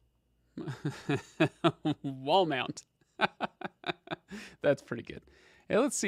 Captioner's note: laughs